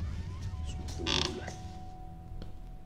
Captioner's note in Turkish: Kapı açılma sesi